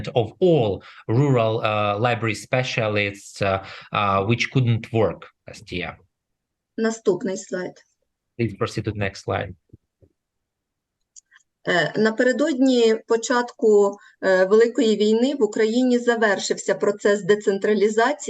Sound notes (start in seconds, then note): 7.0 foreign Language; 11.5 foreign Language